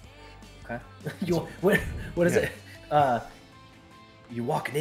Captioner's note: laugh